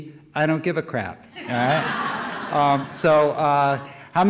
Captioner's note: audience laughter